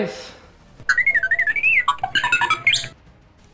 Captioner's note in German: “2 6 P Ro” macht Geräusche wie “R2D2” von StarWars